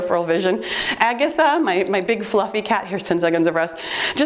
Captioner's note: timer beeps